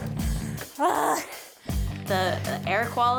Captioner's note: groans